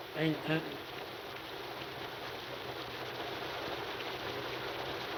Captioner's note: rain pattering